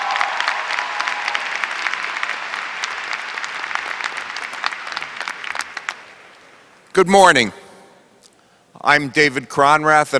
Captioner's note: applause